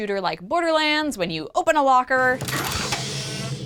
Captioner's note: hiss, creak, metal clanking